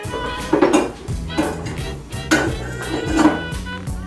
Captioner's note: dishes clanging